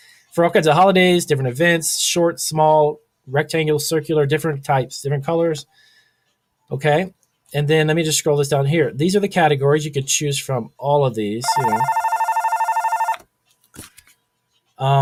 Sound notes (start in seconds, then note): 11.4 phone ringing